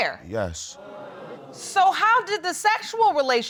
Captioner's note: audience exclaims